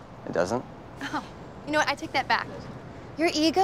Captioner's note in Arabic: ضحكات خافتة